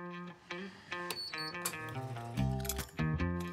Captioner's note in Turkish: Kahve makinası sinyal sesi; Müzik - Hareketli